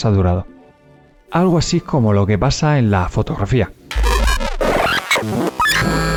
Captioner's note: scrartch